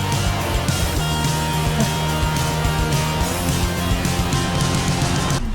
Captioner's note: breathing hard